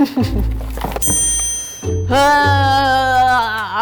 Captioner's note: chimes; groans